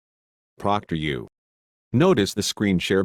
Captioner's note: male Computer Voice